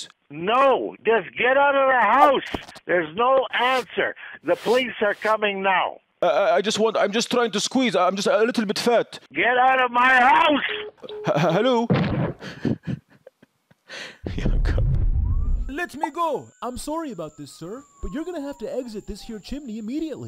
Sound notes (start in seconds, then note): 10.6 phone call ends; 11.9 laughing